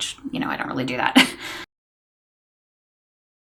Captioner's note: chuckles